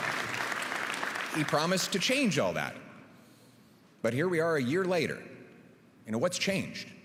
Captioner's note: applause